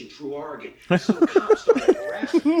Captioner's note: all laughing